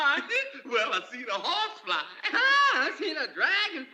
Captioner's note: laughter